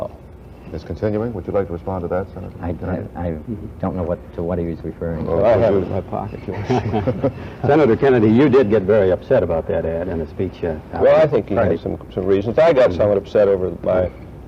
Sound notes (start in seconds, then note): 6.2 mccarthy, reynolds & clark chuckle